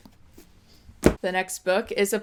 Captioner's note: thud